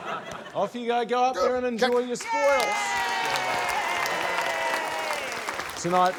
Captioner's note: cheering, applause